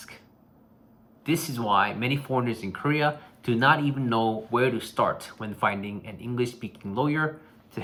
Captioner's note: english-speaking